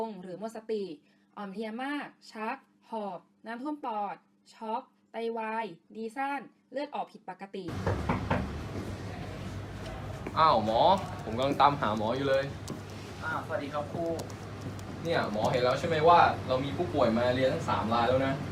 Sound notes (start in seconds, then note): 7.7 knock